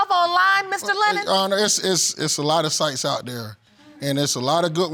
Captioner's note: stuttering